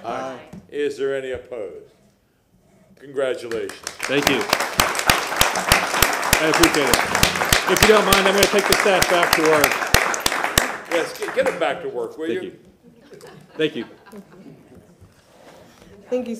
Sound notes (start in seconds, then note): 9.9 applause